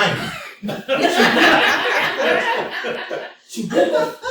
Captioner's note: laughter